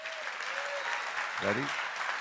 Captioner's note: applause